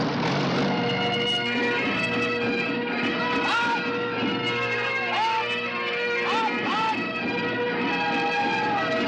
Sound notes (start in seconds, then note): 1.8 bagpipes playing; 1.8 shouting